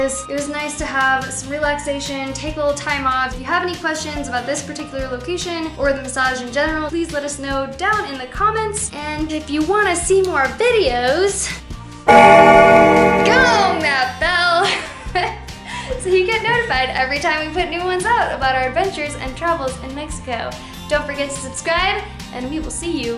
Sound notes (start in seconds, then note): 12.0 gong!